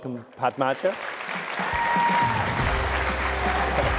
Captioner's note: cheers, applause